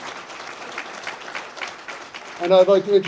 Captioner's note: audience Applauds